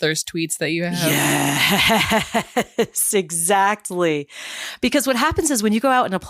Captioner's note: laugh